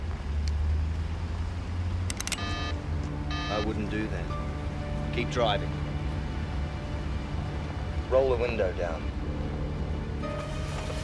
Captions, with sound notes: (gun clicks) (phone beeps) - I wouldn't do that. Keep driving. Roll the window down.